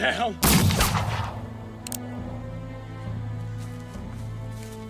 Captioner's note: gunshot blasts